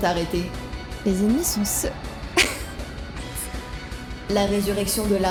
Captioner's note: laugh